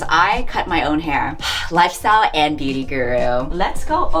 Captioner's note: sighs